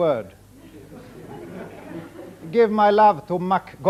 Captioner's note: audience laughing